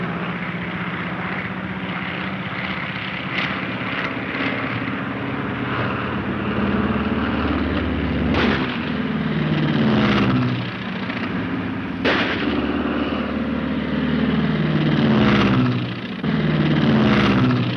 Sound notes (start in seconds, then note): 8.3 gun fires; 9.4 airplane engine roaring; 10.1 gun fires; 11.1 airplane engine roaring